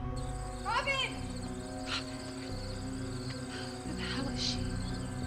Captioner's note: crickets chirping